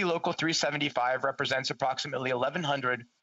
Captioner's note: speaking French